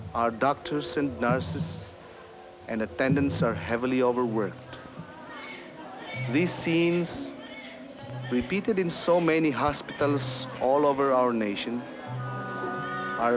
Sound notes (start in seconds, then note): 5.0 babies crying